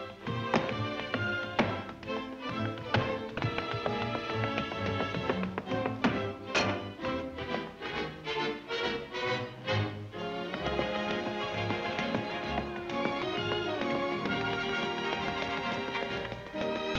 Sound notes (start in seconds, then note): 6.5 clang